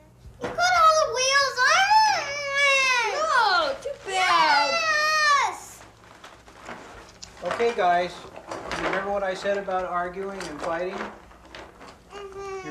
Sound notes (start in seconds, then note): 0.4 children fighting